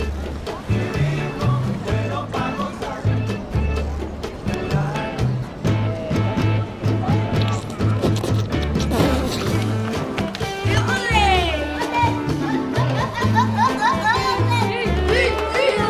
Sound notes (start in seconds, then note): 10.6 kids playing